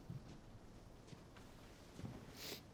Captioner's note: sniffles